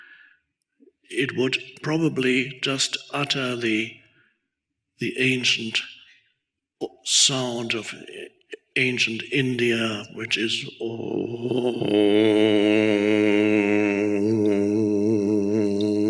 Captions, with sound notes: it would probably just utter the ancient sound of ancient India, which is, (grunts)